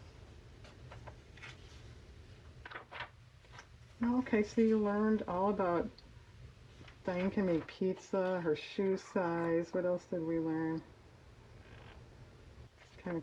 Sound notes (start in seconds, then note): none